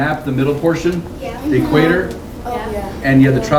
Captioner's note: resounding "yes" from students